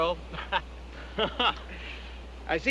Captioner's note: chuckling